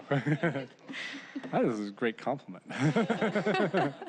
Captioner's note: laughter